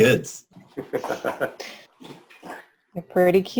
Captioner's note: chuckling